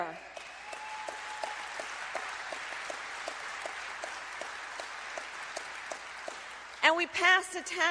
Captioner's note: applause